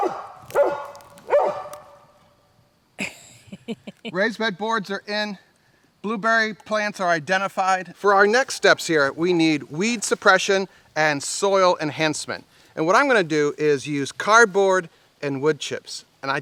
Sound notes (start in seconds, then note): 3.0 laughing